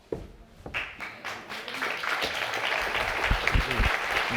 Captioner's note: audience applauding